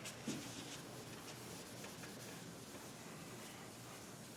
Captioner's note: board eraser hissing